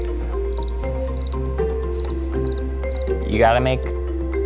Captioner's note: cricket chirping